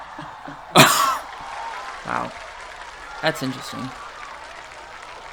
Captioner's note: laughs